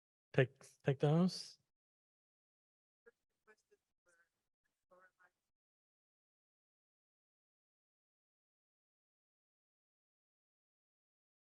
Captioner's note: silence